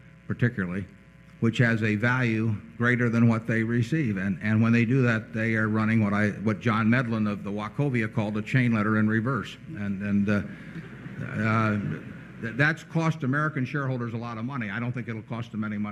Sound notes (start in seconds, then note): 9.3 laughter